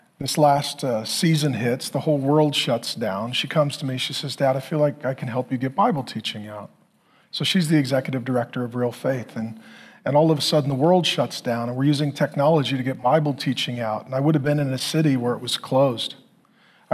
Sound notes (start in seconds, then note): none